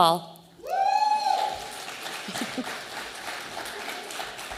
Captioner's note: audience applauding